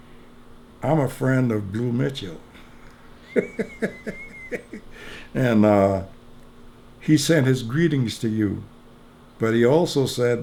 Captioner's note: laughs